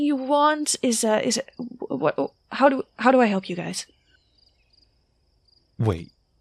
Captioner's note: stammers